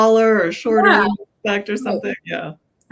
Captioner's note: audio cutting out